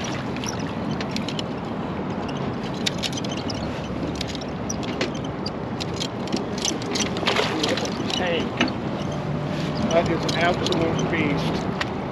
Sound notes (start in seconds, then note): 0.0 fish splashing; 1.4 clattering; 6.6 fish splashing